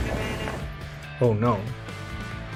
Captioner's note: explosion